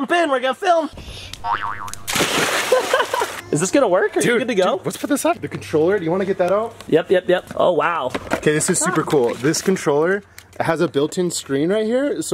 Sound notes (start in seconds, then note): 1.4 boing sound effect; 1.9 splash; 2.7 laughs